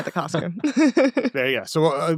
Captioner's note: laughing